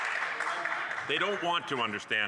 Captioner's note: some Applause